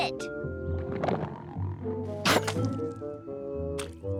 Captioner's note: cat hacks